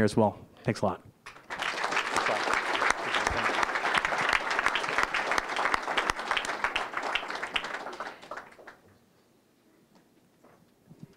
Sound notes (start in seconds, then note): 1.2 applause